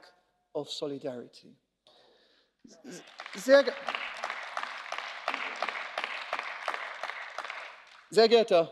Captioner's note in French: Applause